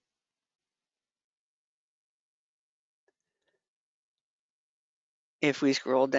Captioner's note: 5 seconds pause